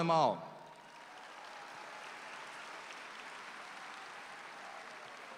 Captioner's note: audience applauds